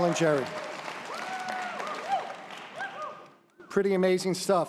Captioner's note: audience applause